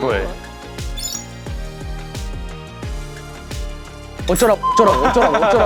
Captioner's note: heh heh